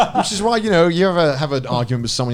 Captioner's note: laughing